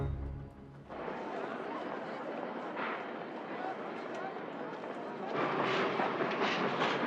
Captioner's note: people murmuring and talking; train engine chugging